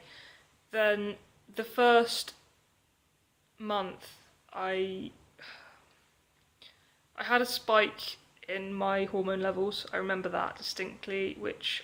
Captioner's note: sigh